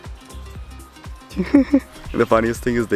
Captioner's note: laughs